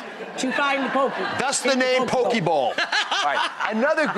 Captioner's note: laughter